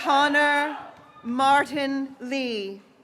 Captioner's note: graduates cheering